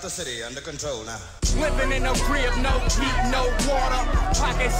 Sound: indistinct shouting

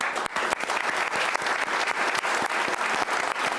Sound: applauding

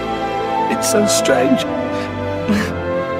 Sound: sobs

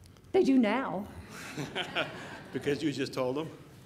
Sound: audience laughing

